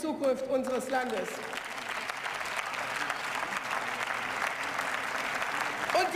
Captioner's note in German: Beifall